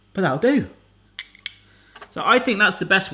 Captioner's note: tool clinking